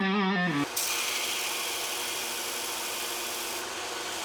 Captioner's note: machine buzzing